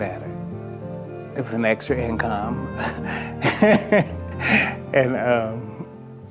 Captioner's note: chuckles